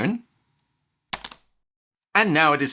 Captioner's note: click